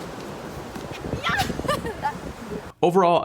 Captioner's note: laughs